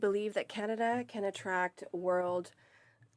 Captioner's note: speaking French